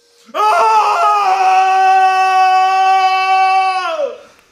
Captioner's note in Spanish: grita muy fuerte